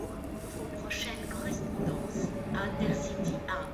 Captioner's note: train information over speakers in French